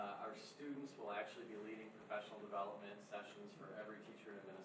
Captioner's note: none